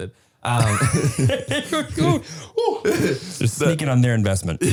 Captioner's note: both laughing